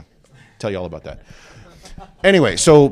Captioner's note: laughter